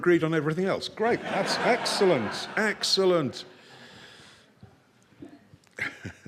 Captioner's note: people laughing